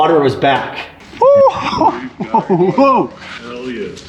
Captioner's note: men exclaiming gleefully